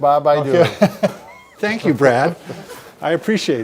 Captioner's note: chuckles